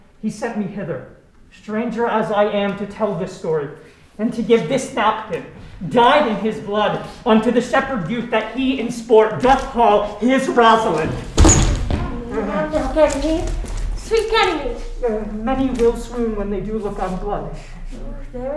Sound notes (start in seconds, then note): 11.3 body thudding